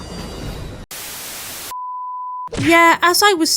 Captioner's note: static